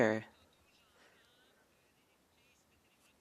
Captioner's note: speaking French